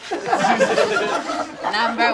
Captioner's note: all laugh